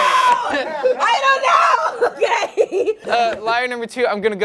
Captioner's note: laughs